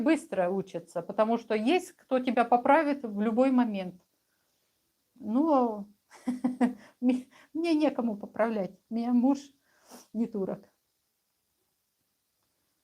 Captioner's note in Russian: смех